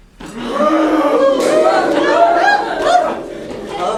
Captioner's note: thunder, scared cow noises